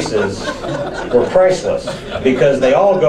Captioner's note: audience laughs